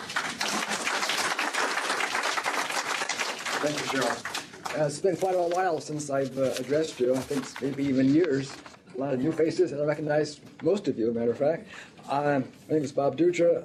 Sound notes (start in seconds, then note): 0.0 applause